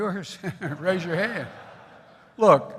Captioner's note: laughter